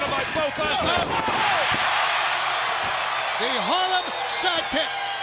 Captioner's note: crowd cheering